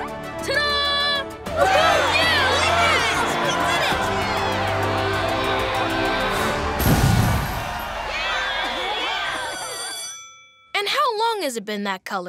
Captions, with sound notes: Ta-da! [cheering] Go, Lincoln! [cheering] [bell rings] And how long has it been that color?